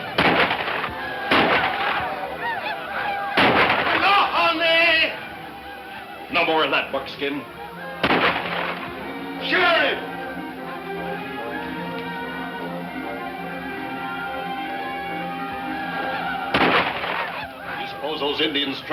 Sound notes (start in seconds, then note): 3.1 speaking in foreign language; 8.0 gunshots; 16.5 gunshots